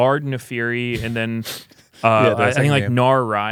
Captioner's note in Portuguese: risos